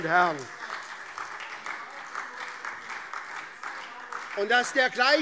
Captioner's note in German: Beifall - Zurufe